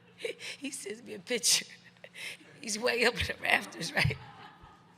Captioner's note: journalist laughs; laughs; crowd laughing; laughs